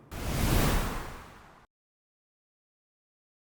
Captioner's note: logo whooshing